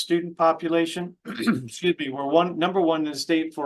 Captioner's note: clears throat